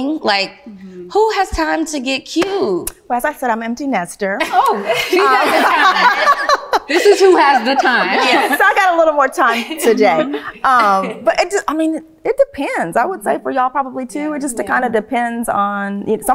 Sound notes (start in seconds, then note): 4.4 ladies laughing